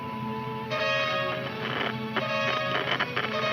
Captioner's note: radio crackles